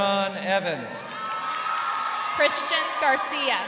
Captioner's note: crowd cheering